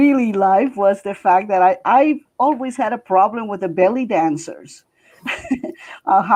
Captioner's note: chuckling